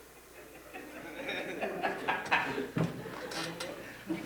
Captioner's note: audience laughing